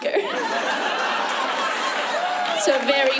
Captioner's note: laughter